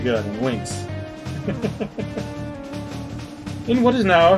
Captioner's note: chuckles